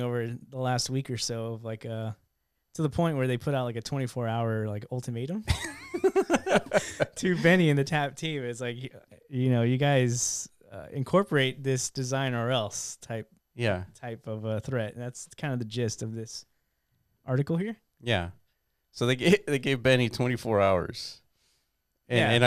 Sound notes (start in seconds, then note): 5.6 laughing